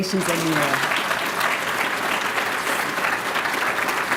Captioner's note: applause